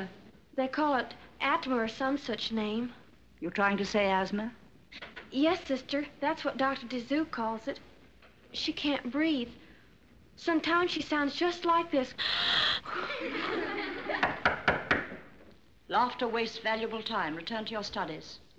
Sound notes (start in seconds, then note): 12.2 wheezing; 12.4 giggling; 14.2 tapping Desk